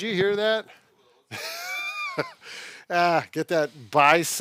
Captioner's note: laughs